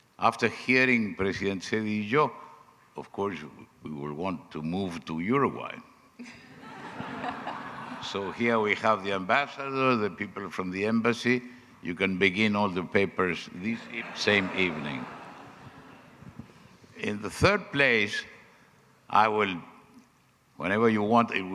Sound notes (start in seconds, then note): 6.3 audience laughing